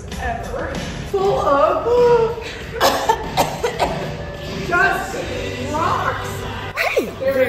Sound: coughs

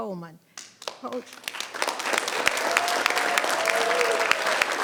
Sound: people clapping

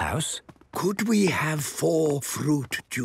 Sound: speaking quietly

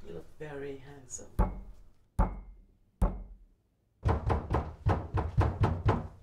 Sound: knocking

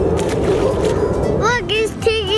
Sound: water splashes

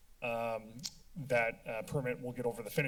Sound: tongue clicking

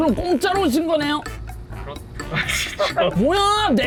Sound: panicking

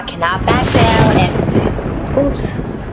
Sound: thunder crackling

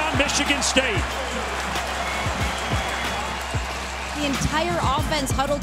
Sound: crowd cheering

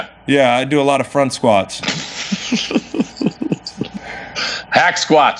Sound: laughs

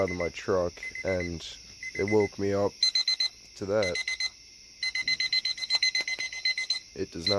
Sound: uncovers speakers, alarm gets louder

